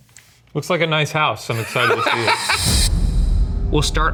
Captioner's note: laughs